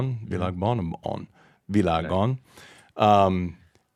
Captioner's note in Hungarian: idegen nyelven beszélve